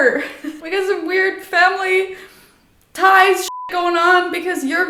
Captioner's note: beep